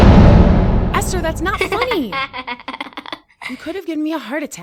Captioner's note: Esther laughing